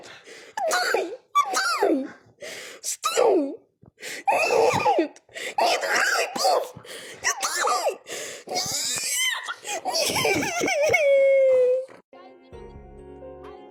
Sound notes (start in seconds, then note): 8.5 crying; 8.6 wailing